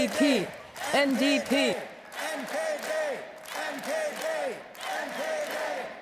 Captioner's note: chanting